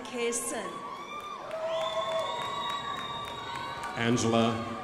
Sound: crowd applauding

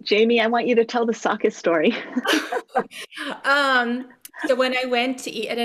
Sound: participants laugh

